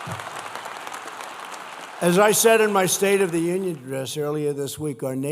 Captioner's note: applause